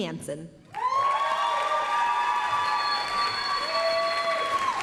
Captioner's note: applause, cheering